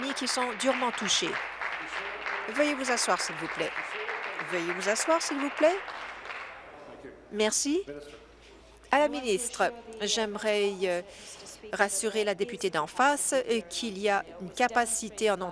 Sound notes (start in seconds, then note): 2.3 applause